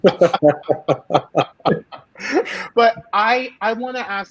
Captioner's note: all laughing